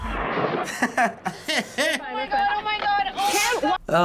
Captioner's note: chuckles; laughs